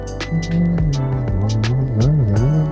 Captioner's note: humming